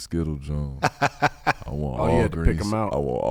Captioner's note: laughing